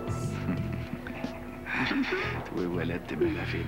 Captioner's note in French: Petit rire